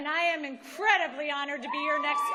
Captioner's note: cheering